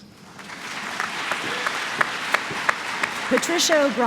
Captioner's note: applause